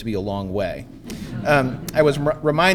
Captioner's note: audience laughing